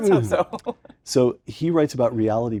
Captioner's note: laugh